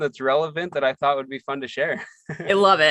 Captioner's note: laughs